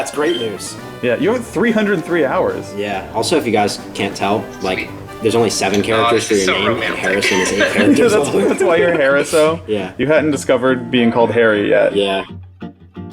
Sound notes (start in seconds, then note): 6.5 laughter